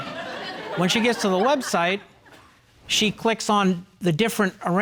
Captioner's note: audience chuckling